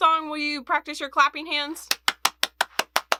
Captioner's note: clapping